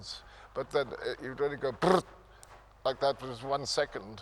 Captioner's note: imitates gunfire popping